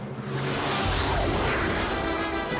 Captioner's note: jets roar past